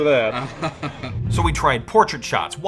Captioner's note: laughs